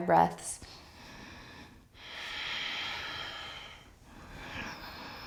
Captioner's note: inhaling and exhaling